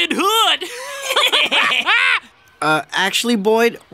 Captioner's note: laughing